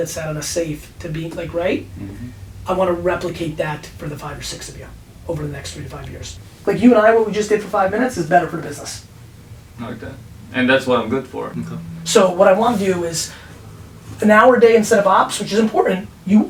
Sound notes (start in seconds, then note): 9.9 voiceover